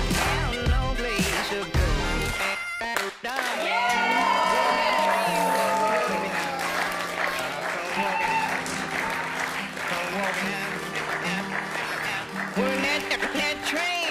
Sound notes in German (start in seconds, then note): 4.0 Jubel und Applaus